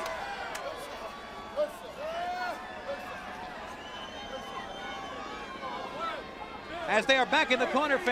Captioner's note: crowd chatter